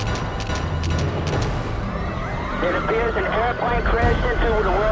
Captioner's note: man on radio